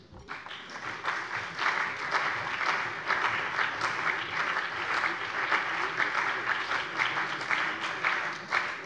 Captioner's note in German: Beifall CDU, vereinzelt BÜNDNIS 90/DIE GRÜNEN und AfD